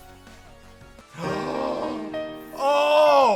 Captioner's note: gasps